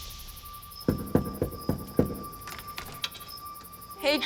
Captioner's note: man knocking